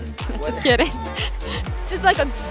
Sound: laughs

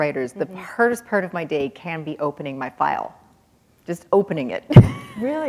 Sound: chuckle

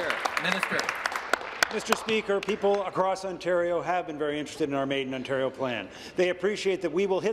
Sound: applause

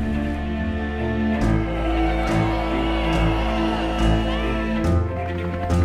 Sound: flames crackling; tense dramatic music; protestors shouting; helicopter blades whirring

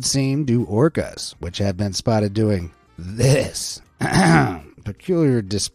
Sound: clears throat

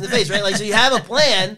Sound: laughs

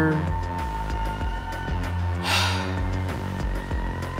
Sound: sigh

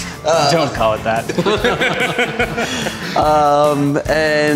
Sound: laughs

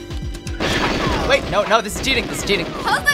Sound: gunfire

